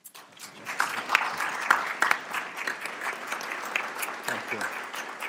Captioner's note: applause